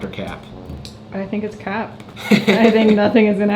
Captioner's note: laughs